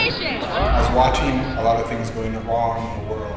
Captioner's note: voiceover